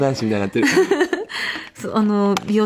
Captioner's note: laughs